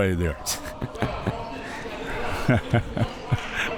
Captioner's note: laughing